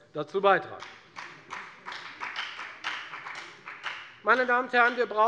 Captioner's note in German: Beifall bei der FDP